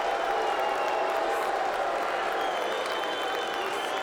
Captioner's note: crowd boos